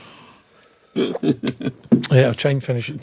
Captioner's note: laughing